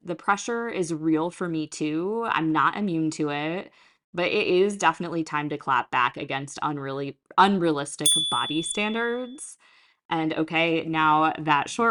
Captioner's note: chime